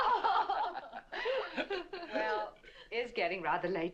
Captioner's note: all laughing